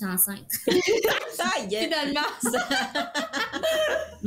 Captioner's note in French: Rires